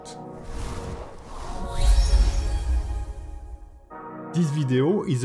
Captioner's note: dramatic music; logo whooshing